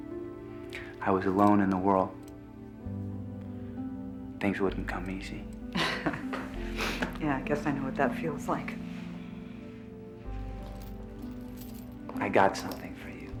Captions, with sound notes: I was alone in the world. Things wouldn't come easy. - (laughs) Yeah, I guess I know what that feels like. - I got something for you.